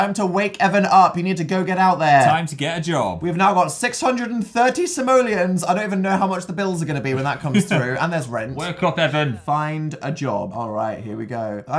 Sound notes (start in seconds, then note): 7.1 laughs